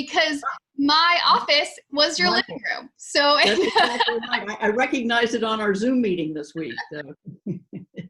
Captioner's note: laughs; laughs